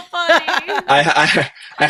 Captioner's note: laughing